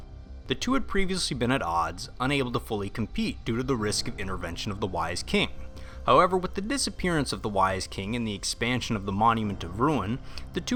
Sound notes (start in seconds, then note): none